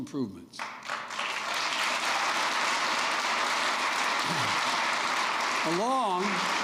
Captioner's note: applause